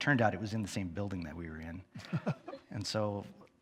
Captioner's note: chuckles